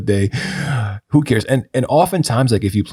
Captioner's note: chuckles